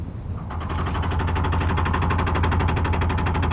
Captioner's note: motor sounds